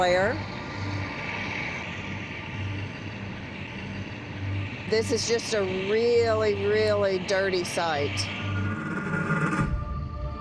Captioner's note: machinery running